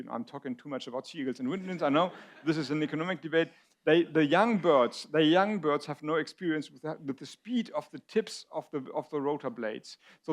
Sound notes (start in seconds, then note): 1.6 audience laughs